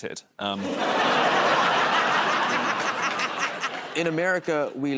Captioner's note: laughter